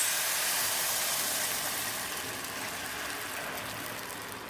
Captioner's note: very loud sizzling